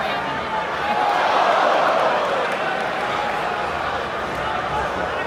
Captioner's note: crowd groans